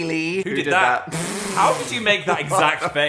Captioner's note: Dan laughing